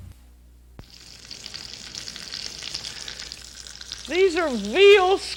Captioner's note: sizzling